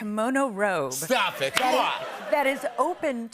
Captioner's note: normal voice